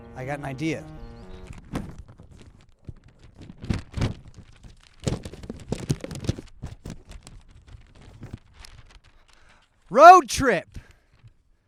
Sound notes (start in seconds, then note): 1.9 map rustles